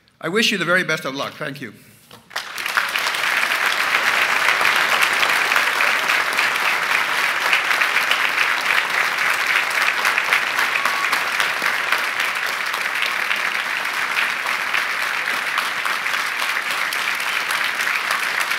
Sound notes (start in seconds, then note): 6.3 applause